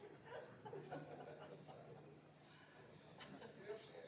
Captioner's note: audience laughs